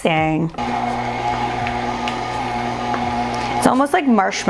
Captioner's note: mixer whirring